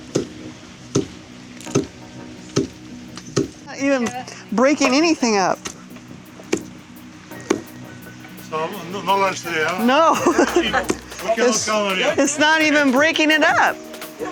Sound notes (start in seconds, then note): 0.9 thuds; 8.6 laughs